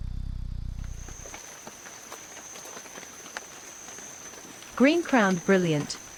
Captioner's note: bird wings flapping; insect sounds; rain